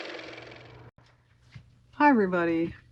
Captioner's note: car motor